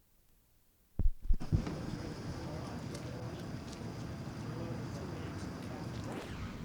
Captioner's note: crowd noise